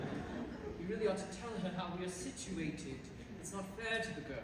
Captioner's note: laughter; speaking normally